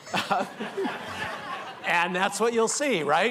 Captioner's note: laughter